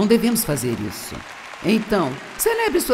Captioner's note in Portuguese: audiência aplaude